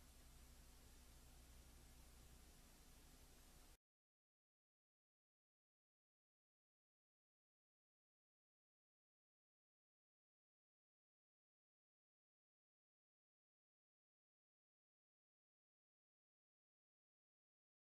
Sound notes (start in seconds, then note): 4.2 silence